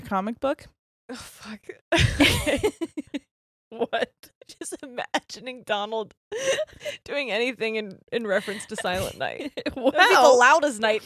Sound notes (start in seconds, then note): 1.9 both laughing